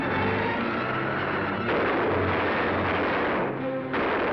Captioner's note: guns firing